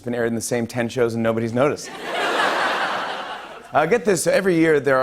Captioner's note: laughter